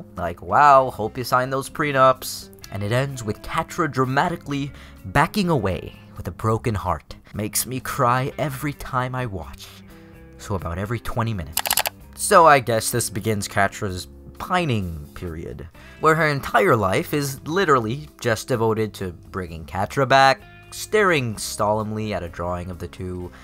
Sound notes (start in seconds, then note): 11.6 clicks